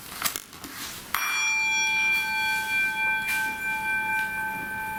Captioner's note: bowl dings and resonates